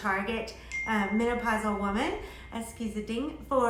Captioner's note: bell rings